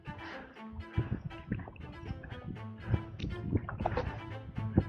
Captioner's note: paddling